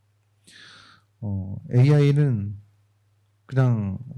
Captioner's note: speaking korean